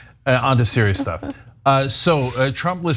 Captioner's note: laugh